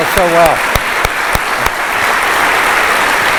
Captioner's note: applause